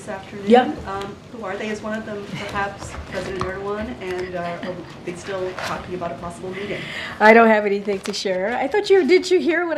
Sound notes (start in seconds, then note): 4.2 laughter